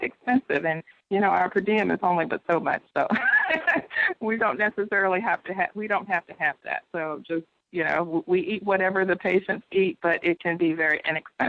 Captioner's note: laughs